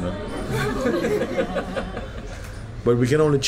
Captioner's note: laughter